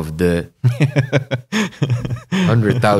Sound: laughter

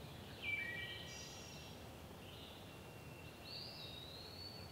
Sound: wild bird singing

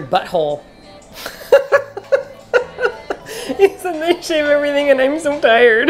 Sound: laughing

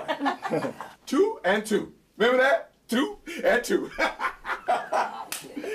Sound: laughing; laughing

